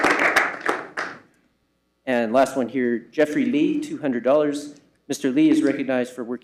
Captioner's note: applause